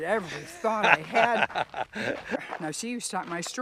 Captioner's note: laughing